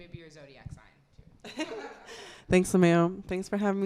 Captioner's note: laughs